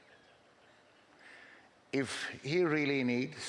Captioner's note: laughing